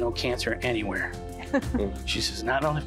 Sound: giggling

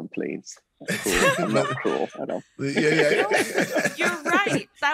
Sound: all laughing

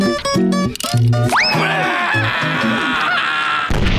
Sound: screaming

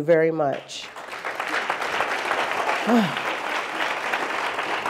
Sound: audience applauding

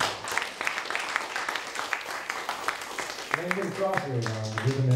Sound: audience applauding; clapping drowns out speaker

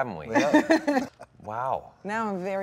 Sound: Gal laughs

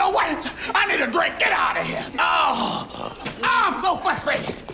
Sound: groans

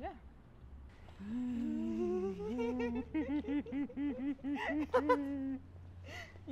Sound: excited giggling

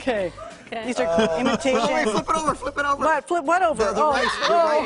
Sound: laughter

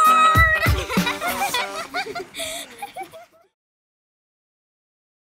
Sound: laughter

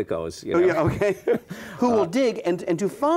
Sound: laughs

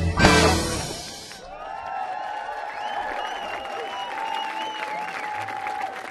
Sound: audience applauding

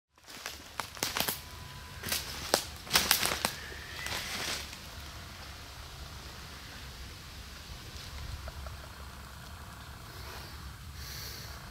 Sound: crunchy leaves, popping branches

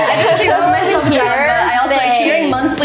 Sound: everyone laughs

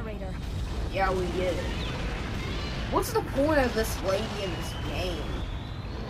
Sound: roaring; gunfire

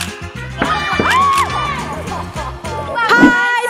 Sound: all shout and laugh

